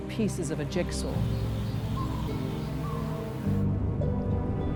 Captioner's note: animals call